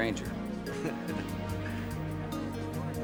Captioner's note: chuckles